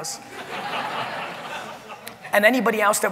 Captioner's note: audience laughing